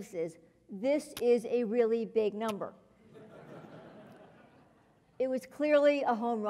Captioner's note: laugh